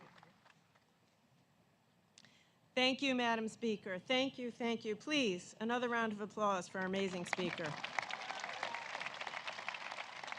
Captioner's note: applause